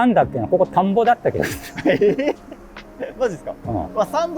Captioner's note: laughing